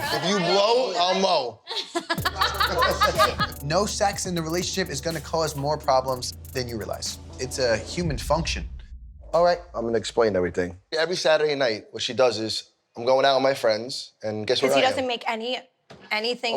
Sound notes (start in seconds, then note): 1.6 laughing